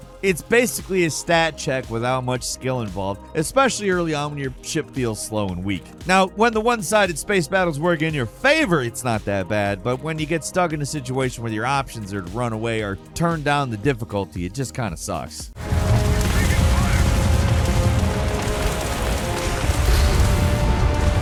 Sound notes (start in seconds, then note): 15.6 guns blasting; 18.6 epic music